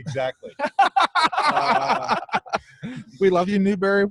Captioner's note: all laughing